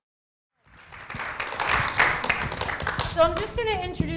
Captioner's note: audience applauding